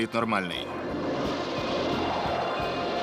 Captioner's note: yelling